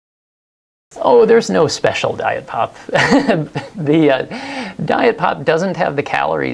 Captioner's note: laughs